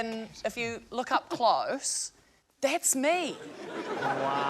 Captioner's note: laughter